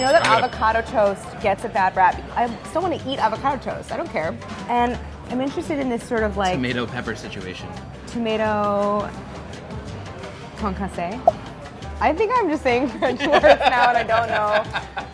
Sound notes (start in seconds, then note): 0.0 bell dinging; 11.1 bubbles popping; 13.0 laughing